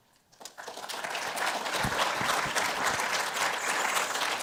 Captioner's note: crowd clapping